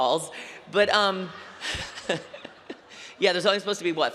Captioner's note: laughter